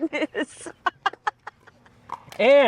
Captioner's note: laughs